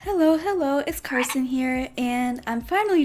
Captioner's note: frog croak!